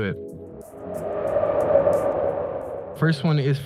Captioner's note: wind whooshes